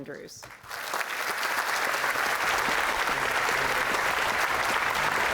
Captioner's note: applause